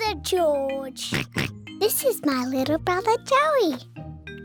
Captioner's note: oinks